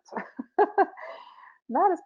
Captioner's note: laughing